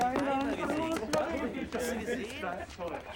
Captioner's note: speaking german